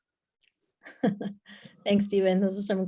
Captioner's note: laughs